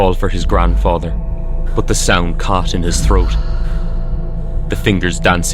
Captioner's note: whooshing sound to the left